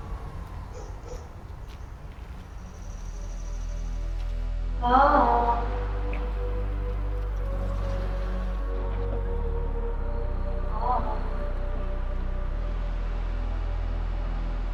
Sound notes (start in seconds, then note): 0.1 dog barking